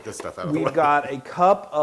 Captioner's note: laugh